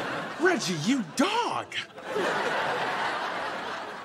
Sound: audience laughing

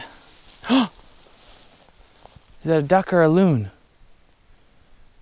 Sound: gasp

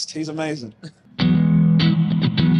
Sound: chuckle

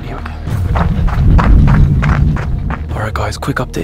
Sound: feet pounding

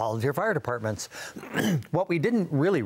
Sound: clears throat

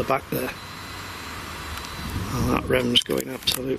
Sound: machine buzzes

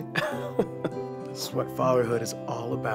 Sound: laughs

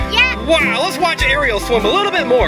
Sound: voiceover

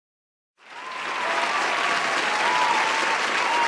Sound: applause

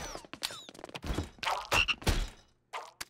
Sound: croaking

